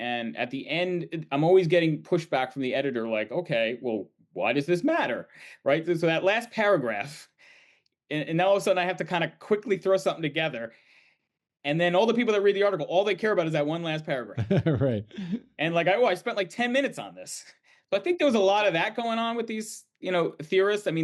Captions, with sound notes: and at the end, I'm always getting pushback from the editor, like, Okay, well why does this matter? Right? So that last paragraph, and now all of a sudden, I have to kind of quickly throw something together, and then all the people that read the article, all they care about is that one last paragraph. - (chuckling) Right. - And like, well, I spent 10 minutes on this. So I think there was a lot of that going on with these, you know, theorists.